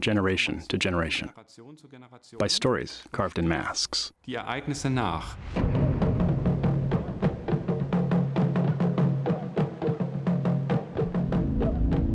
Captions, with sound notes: to generation by stories carved in masks. [non-english speech] [ritual music]